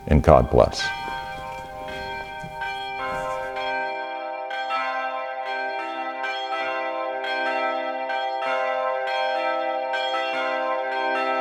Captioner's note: bells